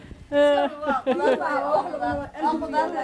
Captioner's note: laughs